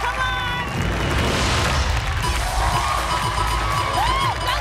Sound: cheers and applause

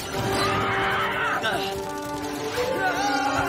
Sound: screeching

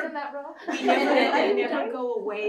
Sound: laughter

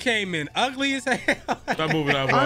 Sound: laughs

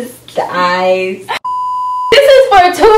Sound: laughs; beeps

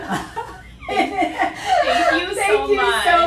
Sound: laughing

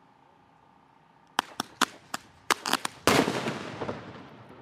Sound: small pops followed by explosive boom

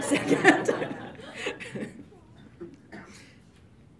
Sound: laughs

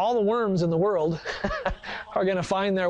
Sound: laughs

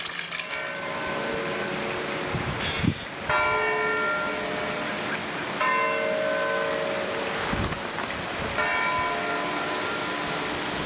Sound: church bells and branches cradled by the wind

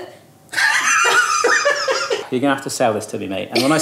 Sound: laughs

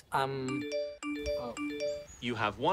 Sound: beeping

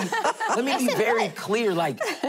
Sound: laughing

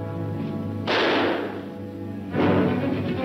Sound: gun firing; dramatic music

